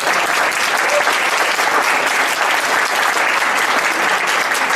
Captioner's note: audience applauds